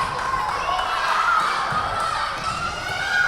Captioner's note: yelling